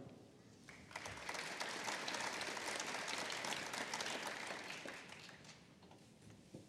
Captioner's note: applause